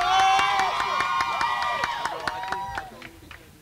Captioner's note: crowd cheers